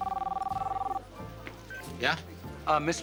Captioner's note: phone ringing